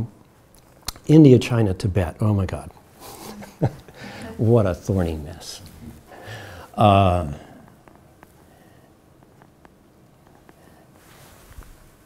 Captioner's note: chuckles